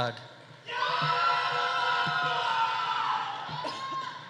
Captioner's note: audience cheering